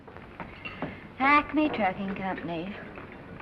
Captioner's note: southern accent